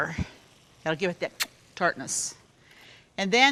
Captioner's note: kiss